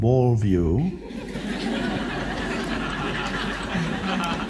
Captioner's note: crowd laughs